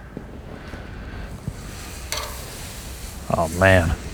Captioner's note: sizzling